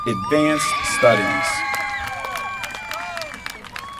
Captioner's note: applause